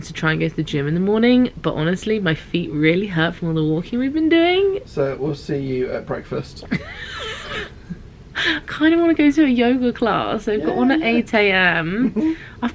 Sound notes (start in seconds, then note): 6.7 laughs